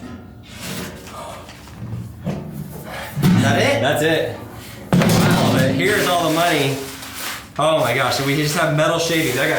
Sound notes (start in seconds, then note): 4.8 metal clangs